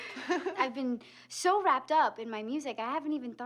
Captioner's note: laughs